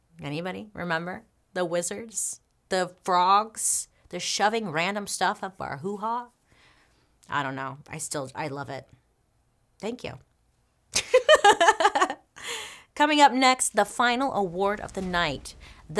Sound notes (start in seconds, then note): 11.4 laughs